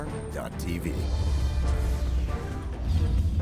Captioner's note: voiceover